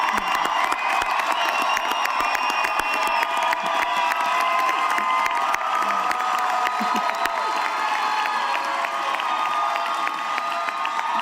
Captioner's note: cheering